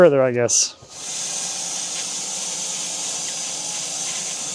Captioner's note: saw buzzing